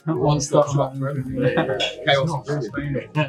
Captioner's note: laughs